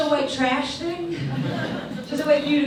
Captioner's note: audience laughs